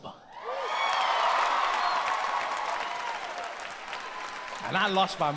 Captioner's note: audience cheers and applauds